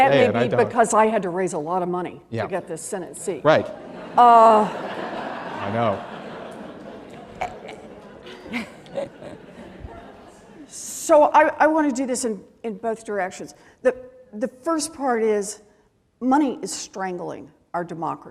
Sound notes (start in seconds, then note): 3.7 laughter